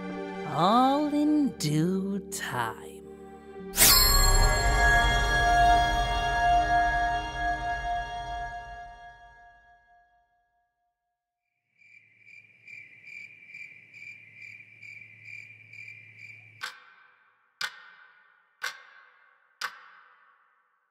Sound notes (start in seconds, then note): 11.8 crickets; 16.4 clock ticking